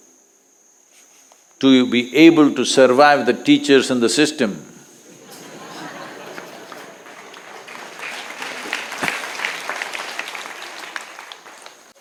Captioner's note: laughs/Applause